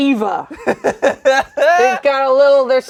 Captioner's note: laughs